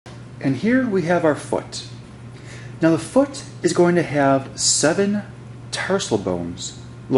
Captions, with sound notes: - [Voiceover] And here we have our foot. Now the foot is going to have seven tarsal bones,